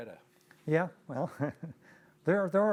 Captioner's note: laughing; laughs